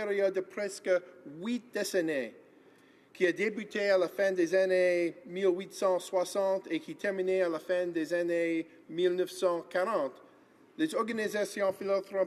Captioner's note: speaking in French